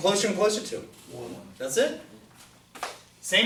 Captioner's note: voiceover